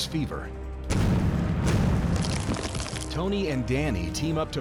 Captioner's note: explosions